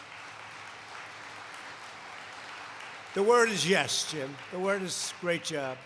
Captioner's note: applause